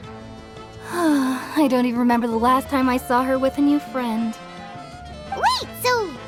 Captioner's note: sigh